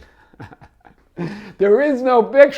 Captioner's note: laughs